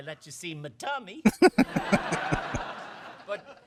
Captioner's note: chuckling